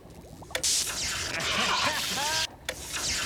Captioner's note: <i> laughing</i>